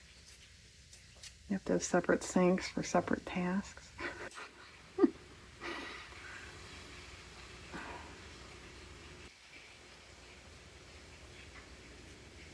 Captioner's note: laughs